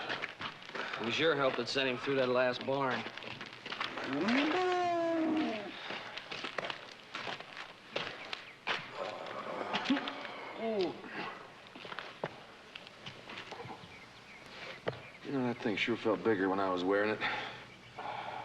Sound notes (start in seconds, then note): 8.9 groaning